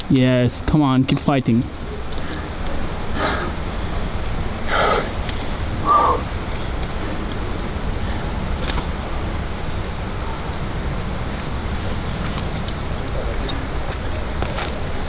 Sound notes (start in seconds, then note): 3.1 panting